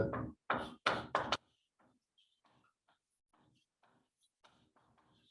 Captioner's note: chalkboard tapping loudly